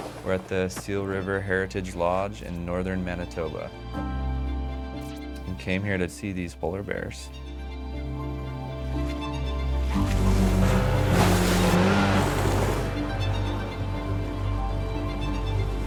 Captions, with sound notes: We're at the Seal River Heritage Lodge in northern Manitoba. We came here to see these polar bears. (boat engine rumbling) (water splashing)